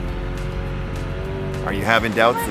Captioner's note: boat engine roaring